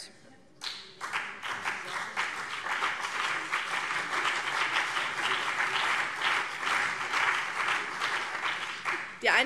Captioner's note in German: Beifall BÜNDNIS 90/DIE GRÜNEN und vereinzelt CDU